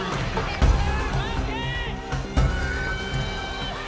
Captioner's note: crowd Yelling